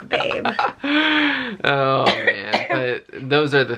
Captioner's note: chuckles